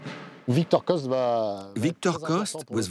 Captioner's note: speaking in foreign language